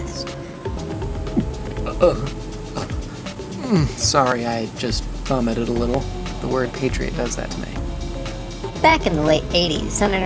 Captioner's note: gagging noises